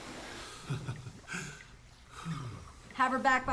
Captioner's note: laughs; sighs